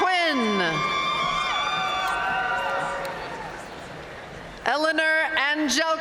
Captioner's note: audience cheering and applauding